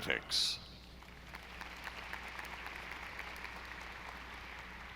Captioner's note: audience applauding